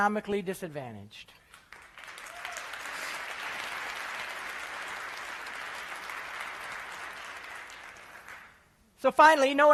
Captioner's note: applause